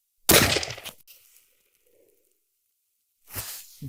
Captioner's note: gunshot